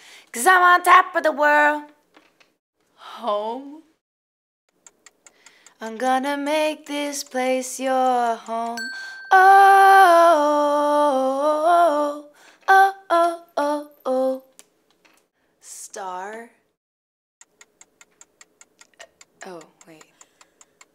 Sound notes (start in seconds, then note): 17.5 clock ticking